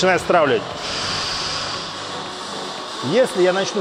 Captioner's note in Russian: Выдох